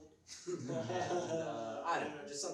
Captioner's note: laughs